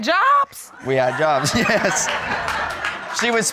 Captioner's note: all laughing